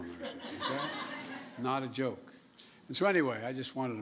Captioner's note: laughter